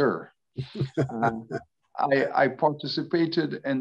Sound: laughs

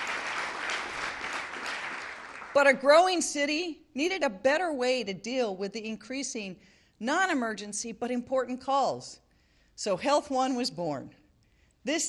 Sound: applause

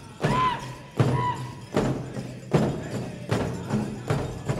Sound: dancer chanting shouts

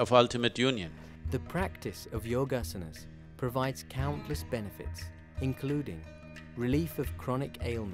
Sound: recorded voice

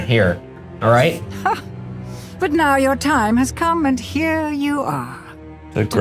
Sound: chuckles

